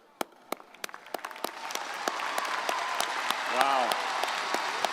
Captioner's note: crowd applauding